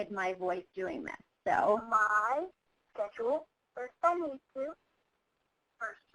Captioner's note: voiceover